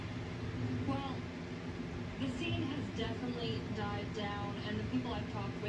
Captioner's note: on TV